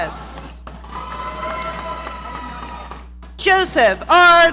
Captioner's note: audience cheering